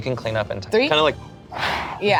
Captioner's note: blows